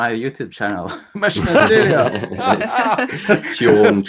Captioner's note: all laughing